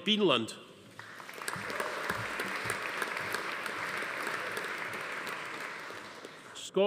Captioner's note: audience applauding; attendee cheering